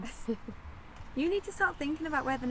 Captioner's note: Tilly laughing